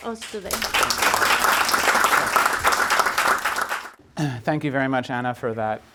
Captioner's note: audience applauding